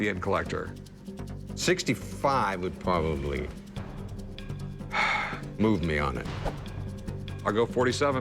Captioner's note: sighs